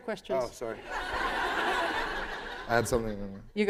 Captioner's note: laughter